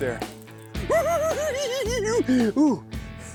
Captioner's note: cackles